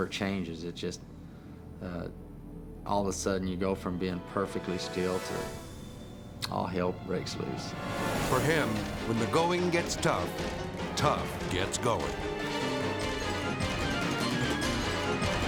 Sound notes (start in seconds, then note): 7.6 dramatic whoosh; 12.0 edgy dramatic music